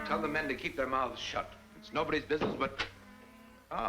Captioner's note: door opens